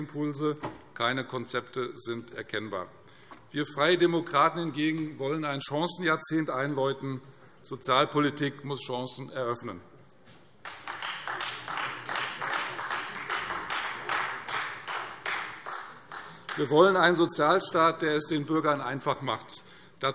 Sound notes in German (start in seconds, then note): 10.6 Beifall Freie Demokraten